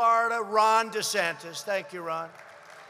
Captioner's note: applause